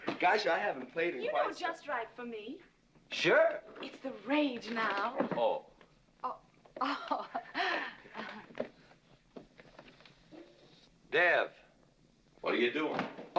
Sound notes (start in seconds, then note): 6.8 laughing softly